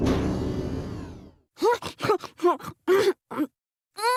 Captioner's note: ravenous eating